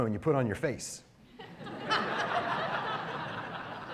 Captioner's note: laughter